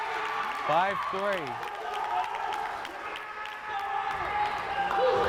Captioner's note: crowd cheering